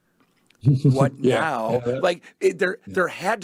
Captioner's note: laughs